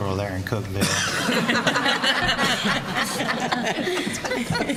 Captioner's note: laughter